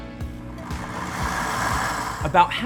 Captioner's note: blender whirring